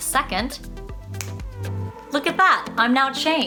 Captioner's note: snapping fingers